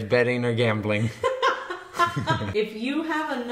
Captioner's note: both laughing